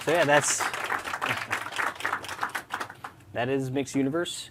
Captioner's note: applause